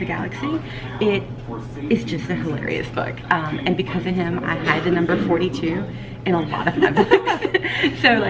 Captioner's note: laughing